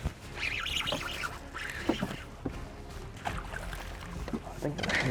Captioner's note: intense music; fishing line whipping